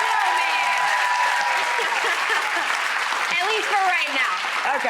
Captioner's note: audience clapping